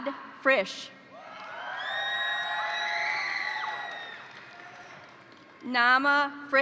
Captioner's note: crowd cheering; crowd applauding